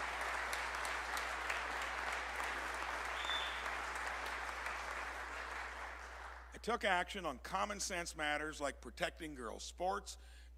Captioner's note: applause